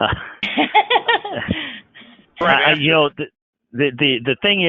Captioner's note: laughter